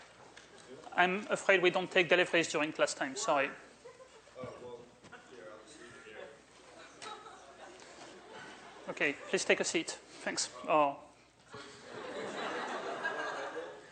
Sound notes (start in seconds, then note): 11.5 laughter